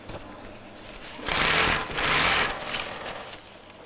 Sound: rattling

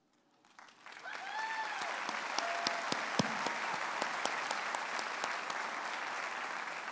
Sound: audience applauds

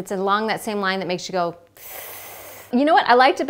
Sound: inhales through teeth

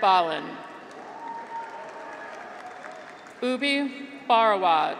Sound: graduates cheer

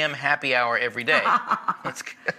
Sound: laughing

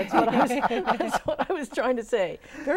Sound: laughing

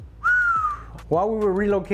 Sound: cook whistles

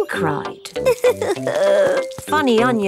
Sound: crying

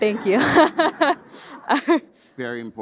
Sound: all laughing

